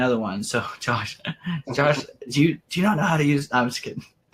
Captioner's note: laughs